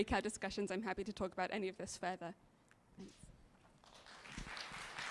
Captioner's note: applause